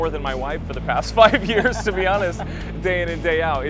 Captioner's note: laughs